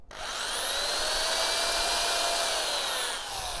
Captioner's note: drill buzzing